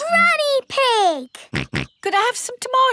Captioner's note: snorts